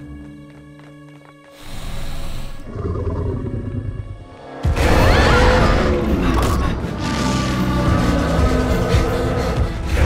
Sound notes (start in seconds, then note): 2.6 growls; 4.7 roars; 4.8 screams